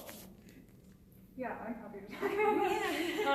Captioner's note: laughs